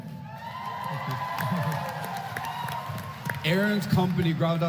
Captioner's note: applause